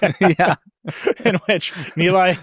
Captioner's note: both laughing